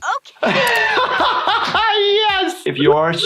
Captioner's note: laughing